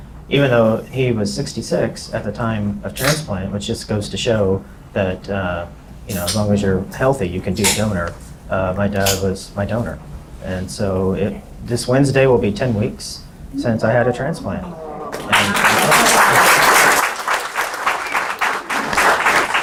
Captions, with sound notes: even though he was 66 at the time of transplant, which just goes to show that as long as you're healthy you can be a donor, my dad was my donor. And so this Wednesday will be 10 weeks since I had a transplant. (applause)